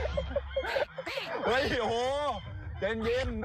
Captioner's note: duck quacking